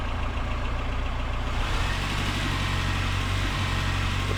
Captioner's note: engine noise